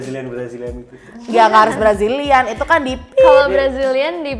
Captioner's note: peep